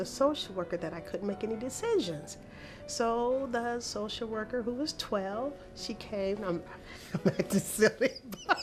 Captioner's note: laughter